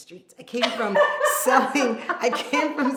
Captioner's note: laughs out loud